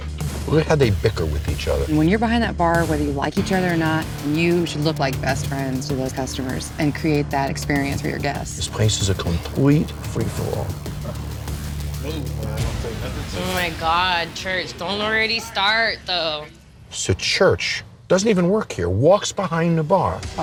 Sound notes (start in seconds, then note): 12.5 chatter